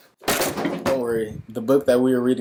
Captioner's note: books clatter